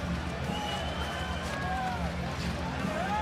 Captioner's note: cheer